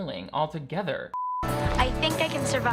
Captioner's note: beeps